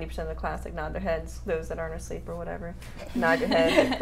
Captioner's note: laughing